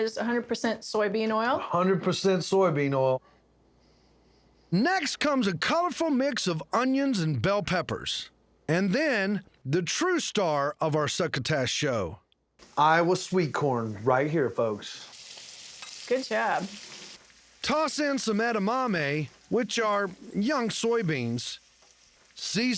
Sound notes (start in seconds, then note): 15.1 sizzling sound